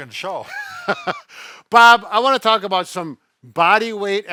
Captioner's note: laughs